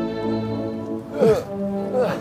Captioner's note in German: Stöhnen